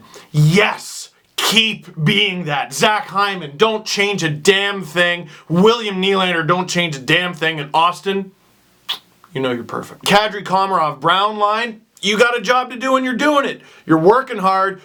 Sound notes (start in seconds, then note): 8.8 smooch